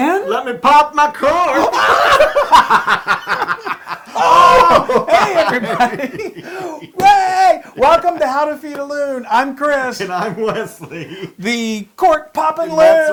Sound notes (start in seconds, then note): 4.1 laugh; 10.0 laugh